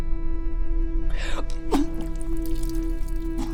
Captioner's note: retching